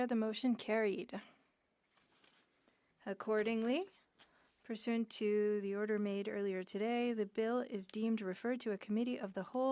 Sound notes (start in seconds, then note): 4.3 speaking French